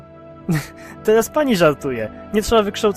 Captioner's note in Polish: śmiech